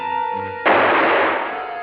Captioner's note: gunshot